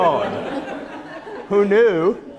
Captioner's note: laughter